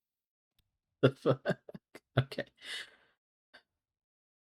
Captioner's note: laughs